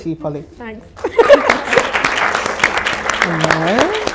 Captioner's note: audience applause